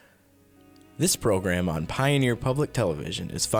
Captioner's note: voiceover